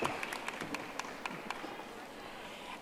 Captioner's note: audience applauding